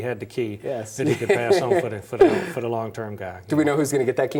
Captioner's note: laughs